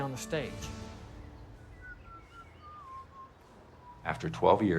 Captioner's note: birds chirping; whistling